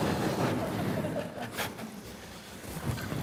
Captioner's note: audience laughing